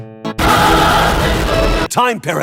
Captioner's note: holy grenade explosion